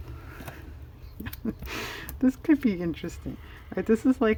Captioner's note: laughs